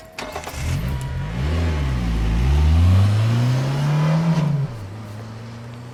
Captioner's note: engine turns over